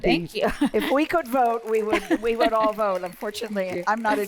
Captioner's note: laughter; applause